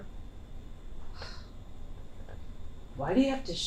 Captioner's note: Nev huffs